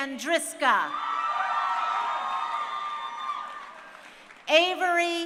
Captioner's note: crowd cheering